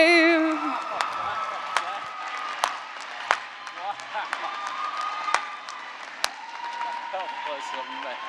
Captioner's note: cheers and applause